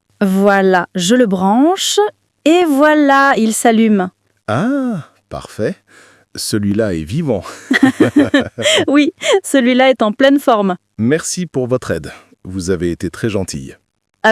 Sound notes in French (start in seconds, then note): 7.3 rire